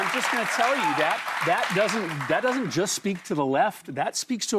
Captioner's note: applause